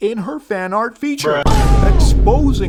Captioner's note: boom